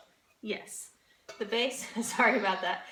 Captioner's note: laughs